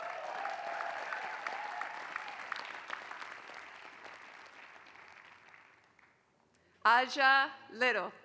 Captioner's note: applause